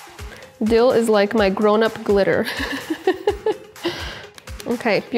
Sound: laughs

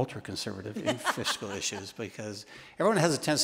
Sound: laughs

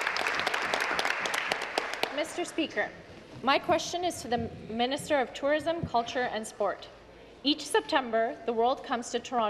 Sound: applause

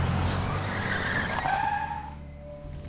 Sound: tires screech

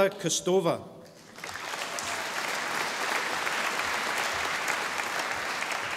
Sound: audience applauding

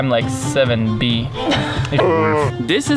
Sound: laughs

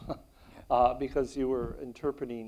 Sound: chuckles

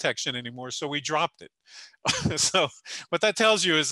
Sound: laughing

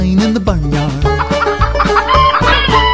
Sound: chickens clucking

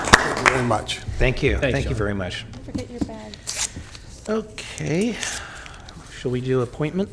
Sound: applause

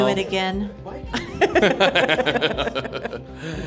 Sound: laughing

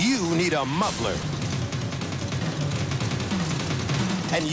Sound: serious engine knocking

